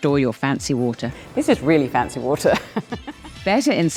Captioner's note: laughs